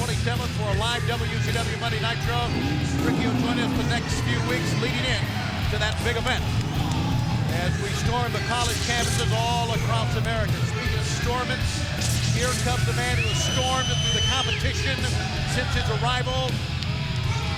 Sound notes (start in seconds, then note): 11.7 electricity crackling